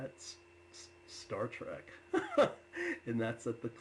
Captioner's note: laughs